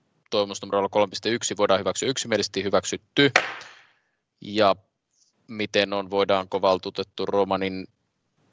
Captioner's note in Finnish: nuijan kopautus